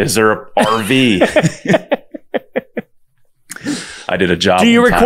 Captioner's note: both laughing